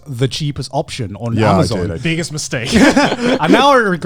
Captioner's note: laughs